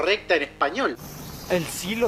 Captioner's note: in Latin Spanish